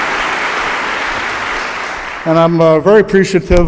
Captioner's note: applause